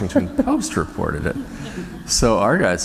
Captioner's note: laughter